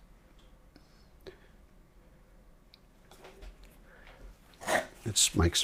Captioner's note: silence